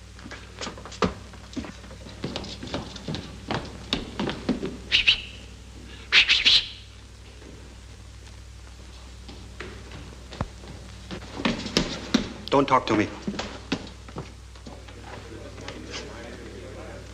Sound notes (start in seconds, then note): 4.9 whistles